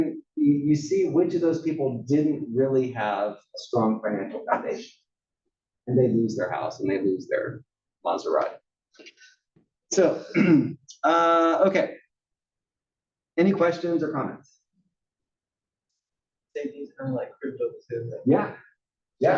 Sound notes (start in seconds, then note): 10.3 cough